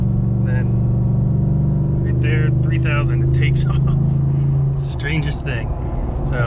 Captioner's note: chuckles